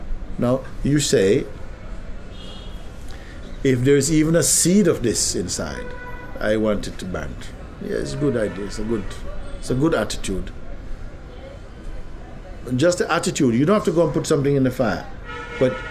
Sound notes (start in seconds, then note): none